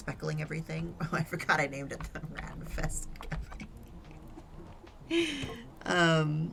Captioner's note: giggles